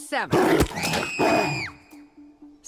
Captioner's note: growl and shriek